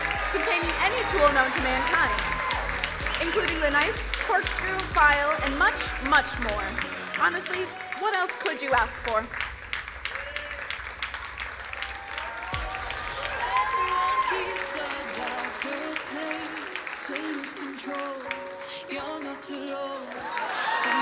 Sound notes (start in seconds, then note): 10.1 crowd cheering and applauding